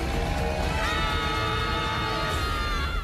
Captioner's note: screaming